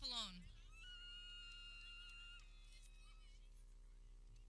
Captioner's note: people cheering